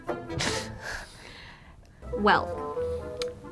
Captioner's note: laughs